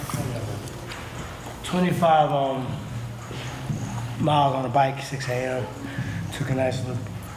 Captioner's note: sounds of gym